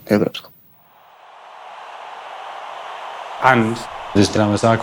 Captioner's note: crowd cheering